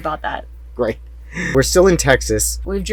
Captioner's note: laughing